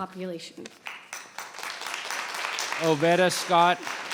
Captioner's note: audience applauds